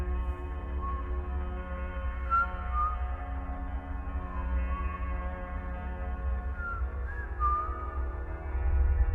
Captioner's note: whistling